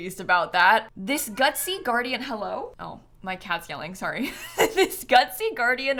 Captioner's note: meow